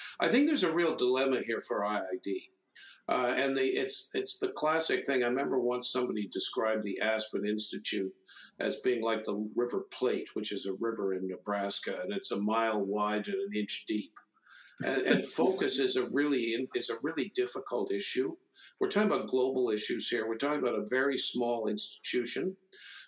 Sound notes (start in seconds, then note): 14.8 laughs